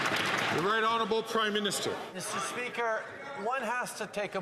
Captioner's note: some Applause